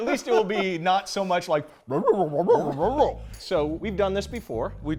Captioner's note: demonstrates mumbling